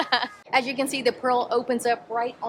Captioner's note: laughing